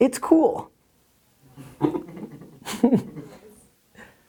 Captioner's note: chuckling